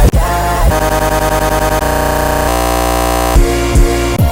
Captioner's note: stutter loop